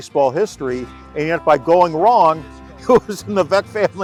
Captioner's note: laughs